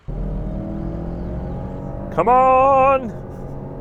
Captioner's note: engine revving